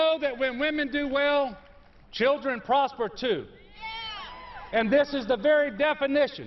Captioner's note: applause